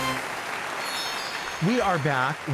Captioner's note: audience applauding